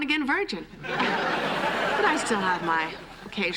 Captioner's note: laughter